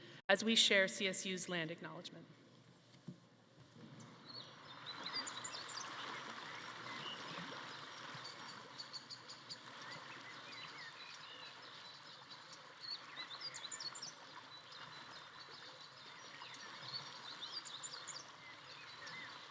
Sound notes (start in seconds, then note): 4.5 water rushing; 4.9 birds chirping